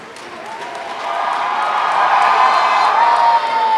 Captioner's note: cheering